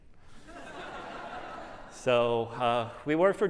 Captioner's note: laughter